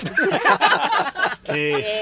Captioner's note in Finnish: Kovaa naurua